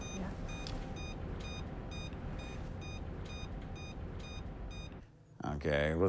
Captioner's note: machine beeping